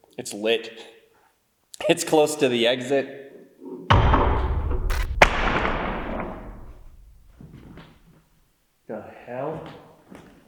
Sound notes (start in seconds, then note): 4.2 bottle thuds; 4.7 static crackles; 5.8 bottle thuds